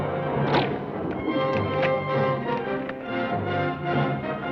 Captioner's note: gun fires; bow twangs